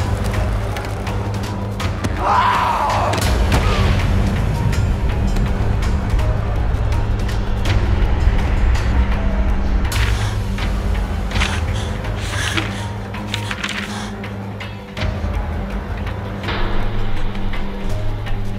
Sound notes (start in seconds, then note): 2.2 Leonard screaming; 4.6 dramatic music